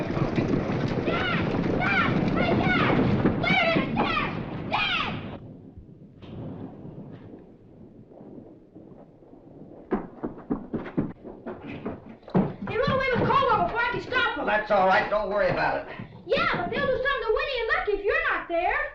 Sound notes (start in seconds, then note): 0.8 yelling